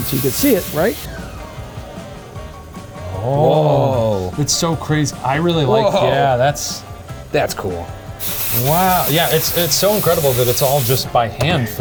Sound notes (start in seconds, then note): 1.8 upbeat music continues; 8.1 steam hissing